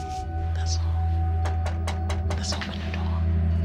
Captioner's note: knocking on door